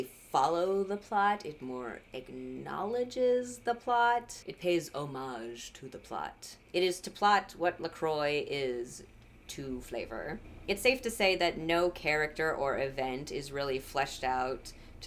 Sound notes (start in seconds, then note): none